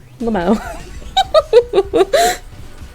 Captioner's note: maniacle giggling